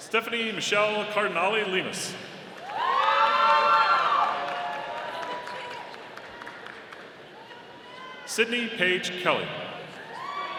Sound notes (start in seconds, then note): 2.5 audience applauding; 10.0 audience cheering